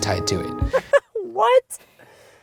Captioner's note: voiceover